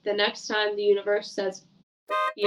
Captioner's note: horn blows